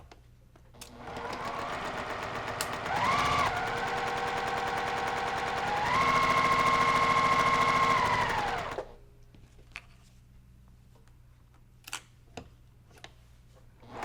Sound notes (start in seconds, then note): 0.8 sewing machine humming